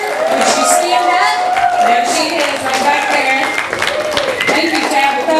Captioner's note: audience applause